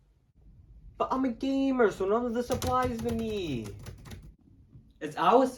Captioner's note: furious keyboard mashing